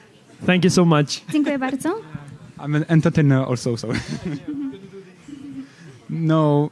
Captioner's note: laughs